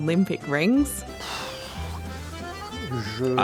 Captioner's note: exhales sharply